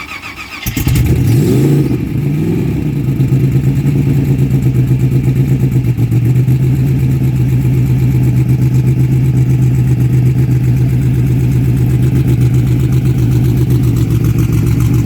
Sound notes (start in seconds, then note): 0.8 car starts